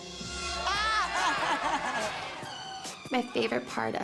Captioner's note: laughing